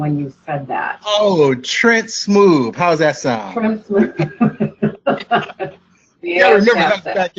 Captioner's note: laughs